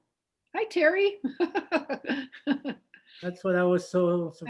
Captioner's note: laughs